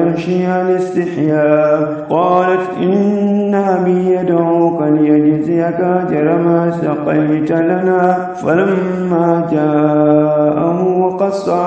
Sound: walking

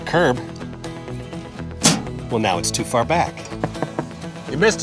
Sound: mailbox hitting the ground

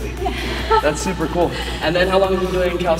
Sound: laughs

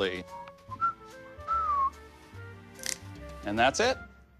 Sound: whistling

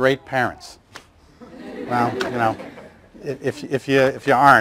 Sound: laughter

